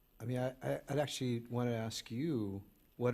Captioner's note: none